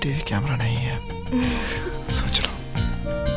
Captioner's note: Shreya giggling